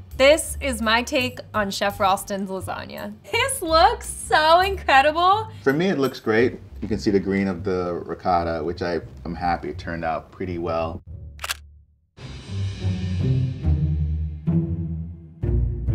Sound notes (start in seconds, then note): 11.4 camera clicks; 12.9 tense music